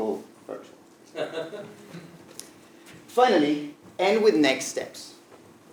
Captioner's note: laugh